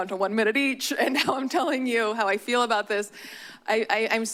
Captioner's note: chuckles